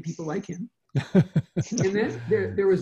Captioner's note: laughs